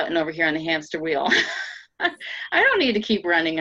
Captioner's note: laughing